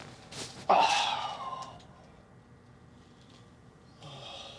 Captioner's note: Scott groans